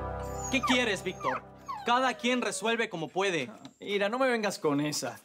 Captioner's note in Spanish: Ladridos